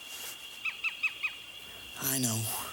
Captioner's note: birds chirping